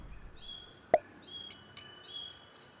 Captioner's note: pop